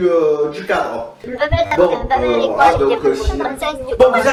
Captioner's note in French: derrière on entend un brouhaha